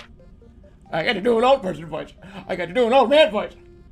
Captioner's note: old man voice